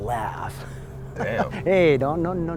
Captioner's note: Mr. Boll laughing